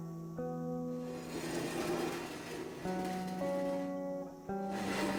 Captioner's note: metal Dragging Across Concrete